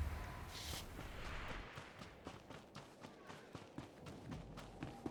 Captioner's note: footsteps